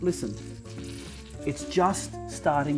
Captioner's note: butter sizzling